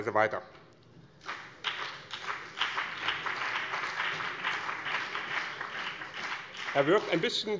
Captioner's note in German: Beifall BÜNDNIS 90/DIE GRÜNEN und vereinzelt CDU